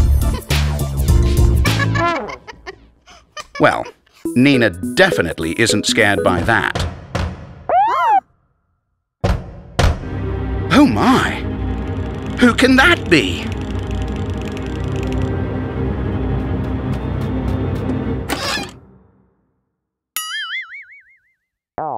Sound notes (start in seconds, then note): 0.1 Nina laughing; 6.8 loud banging on the door